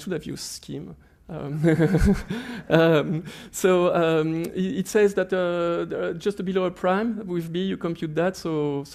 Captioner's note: laughs